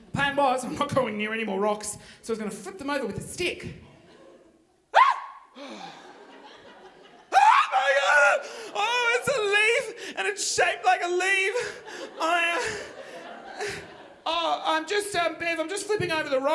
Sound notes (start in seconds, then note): 4.9 screaming; 5.5 sighing